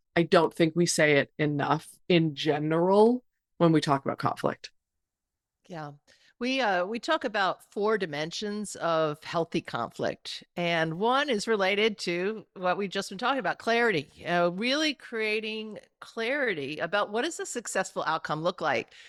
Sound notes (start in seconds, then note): none